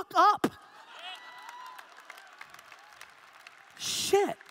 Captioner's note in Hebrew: הקהל מריע